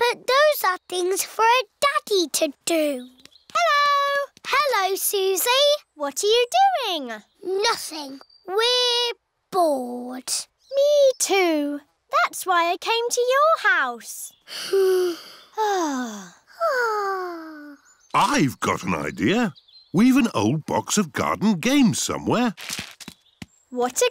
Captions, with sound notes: But those are things for a daddy to do. -Hello! -Hello, Suzy. -What are you doing? -Nothing. We're bored. Me, too. That's why I came to your house. (ALL SIGH) I've got an idea. We've an old box of garden games somewhere.